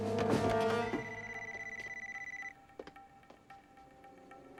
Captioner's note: beeping